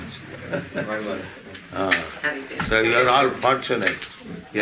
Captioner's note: chuckles